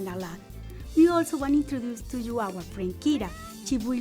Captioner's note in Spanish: maúlla